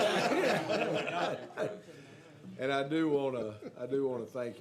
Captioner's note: laughter